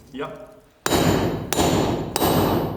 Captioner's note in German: Metallische Schläge